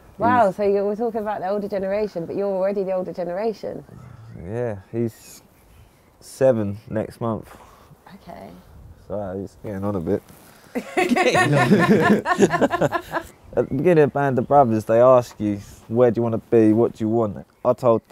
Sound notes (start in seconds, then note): 10.7 laughing